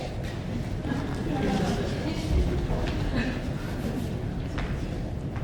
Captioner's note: audience chuckling